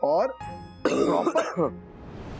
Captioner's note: coughs